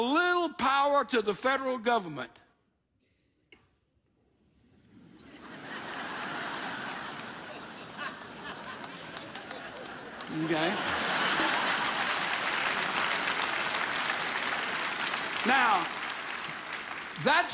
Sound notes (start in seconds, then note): 5.0 audience laughs; 11.5 audience laughs and applauds!